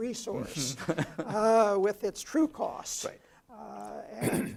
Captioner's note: laugh